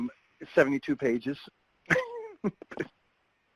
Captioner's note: laughs